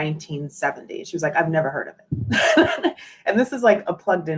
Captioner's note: laughs